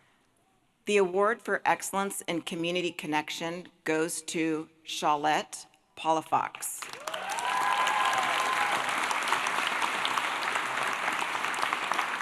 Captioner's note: applause